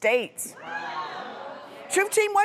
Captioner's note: crowd make surprised noises